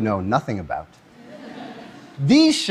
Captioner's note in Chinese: Laughter; 笑聲